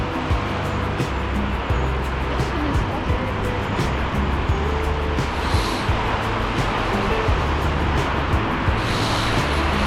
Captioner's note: wind Blowing